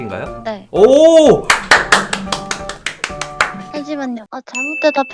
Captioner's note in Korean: 짝짝짝짝짝짝짝짝